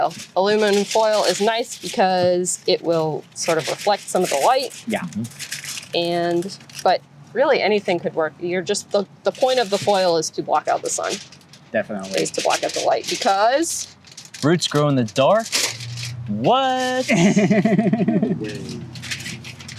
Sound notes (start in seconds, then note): 17.6 sarcasm